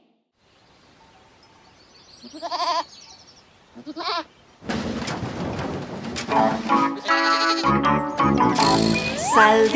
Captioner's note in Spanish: Música Alegre; Sonido de chivo; Sonido de chivo y redoblante